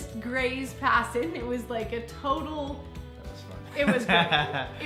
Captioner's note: laughs